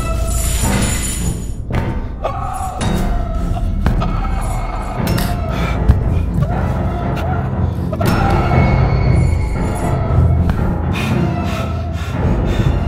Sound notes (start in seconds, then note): 2.2 screams; 4.2 bone cracks; 7.3 bone cracks